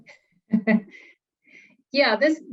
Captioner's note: chuckling